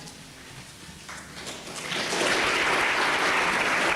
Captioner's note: applause